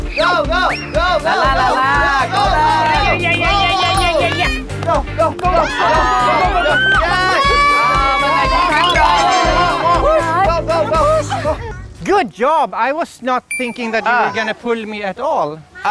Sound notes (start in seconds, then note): 5.4 the fathers are cheering vigorously